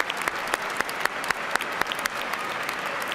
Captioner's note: cheers and applause